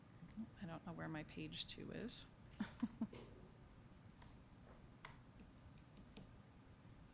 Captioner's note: chuckles